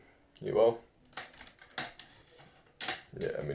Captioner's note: mic stand sounds